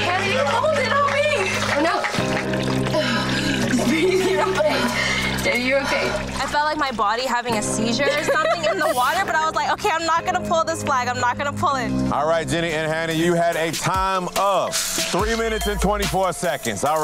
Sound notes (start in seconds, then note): 2.9 gasping; 7.8 laughing; 14.4 digital beeping